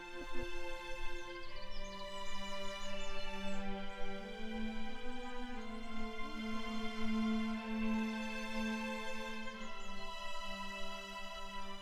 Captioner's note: birds chirping